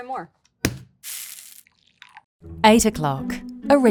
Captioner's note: bag thudding and coffee pouring